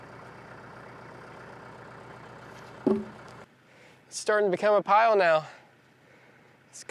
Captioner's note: sawing